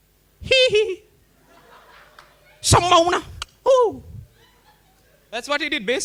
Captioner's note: Micheal Jackson Noises